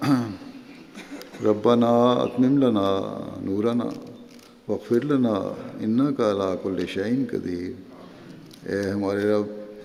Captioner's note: Arabic